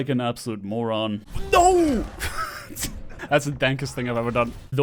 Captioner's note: chuckles